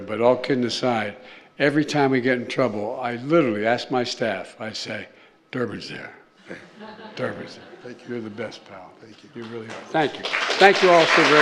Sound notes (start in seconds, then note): 6.4 laughter